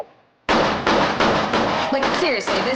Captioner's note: gun firing